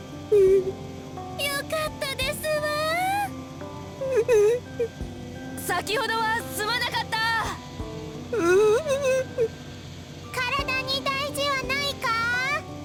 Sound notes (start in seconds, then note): 0.3 mortified whimper; 4.3 mortified quivering; 8.7 mortified quivering